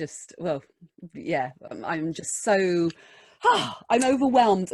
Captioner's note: happy sighs